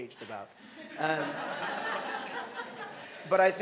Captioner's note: audience laughing